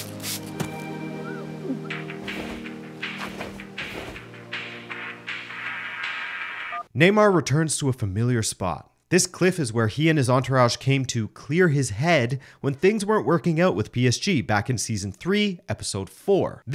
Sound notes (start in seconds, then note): 1.1 glass wipe; 1.8 phone ringing